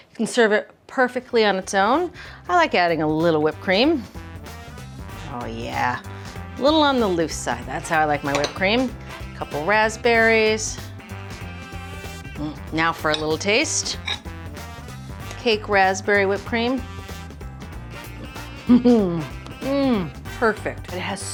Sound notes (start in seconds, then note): 18.6 giggles